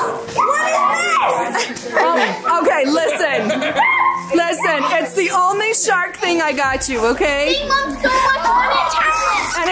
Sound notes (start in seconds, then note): 2.6 female laughs